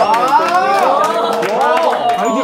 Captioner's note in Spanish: Aplausos